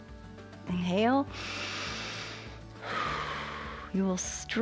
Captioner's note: inhales and exhales